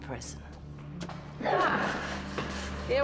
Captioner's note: footsteps scuffling